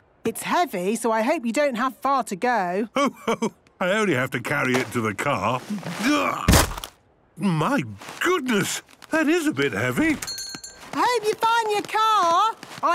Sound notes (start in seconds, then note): 6.4 thuds